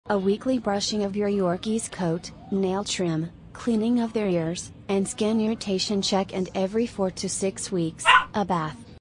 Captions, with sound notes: A weekly brushing of your Yorkie's coat, nail trim, cleaning of their ears, and skin irritation check - *Bark* - and every 4-6 weeks, a bath.